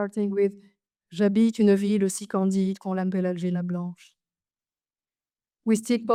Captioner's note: speaks French